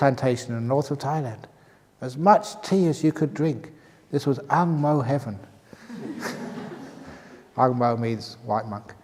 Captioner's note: laughs